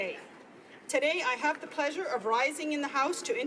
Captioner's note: speaking Italian